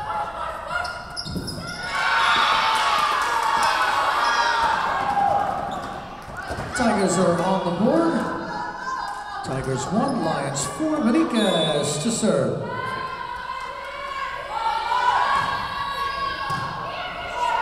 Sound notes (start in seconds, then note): 2.0 Tigers cheering; 11.4 whistle blowing